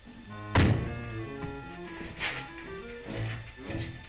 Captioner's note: Billy thuds